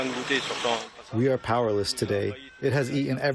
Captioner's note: through translator